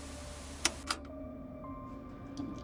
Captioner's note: button clicks; gentle tense music; tense music; button clicks; gentle tense music